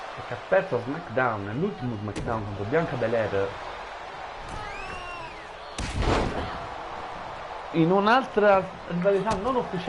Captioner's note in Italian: Applauso